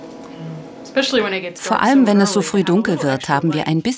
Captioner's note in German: englisch